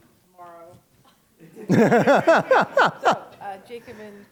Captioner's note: laughter